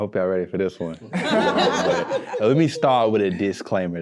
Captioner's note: all laughing